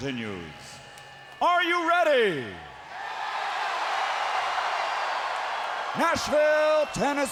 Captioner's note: crowd cheering